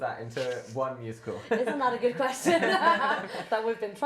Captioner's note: laughter